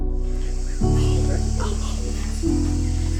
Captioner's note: whispering